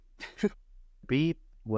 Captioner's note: laughing